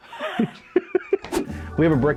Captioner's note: laughter